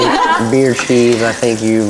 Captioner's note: laughter